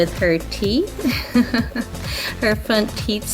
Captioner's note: laughs